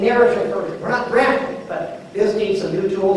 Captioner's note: none